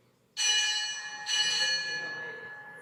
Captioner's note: bell rings